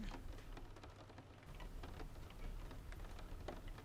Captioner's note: rain pattering